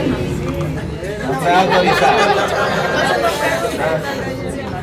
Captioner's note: laugs